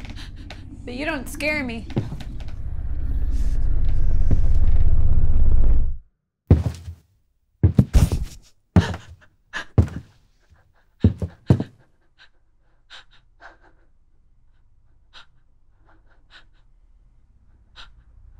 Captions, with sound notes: But you don't scare me. (footsteps thudding) (shallow breathing)